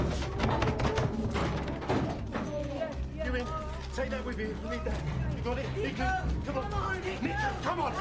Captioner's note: banging on door